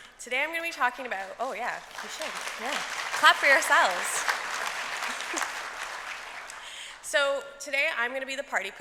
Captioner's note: applause